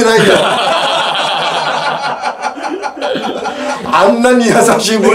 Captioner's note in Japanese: 笑い